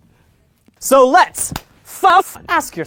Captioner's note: clap